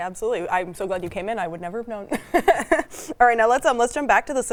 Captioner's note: chuckles